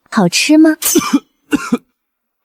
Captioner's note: cough, cough